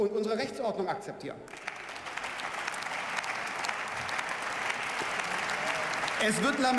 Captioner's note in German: Beifall